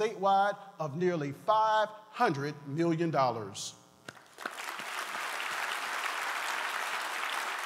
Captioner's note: applause